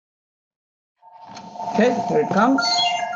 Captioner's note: phone rings